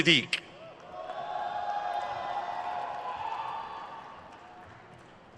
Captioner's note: crowd cheers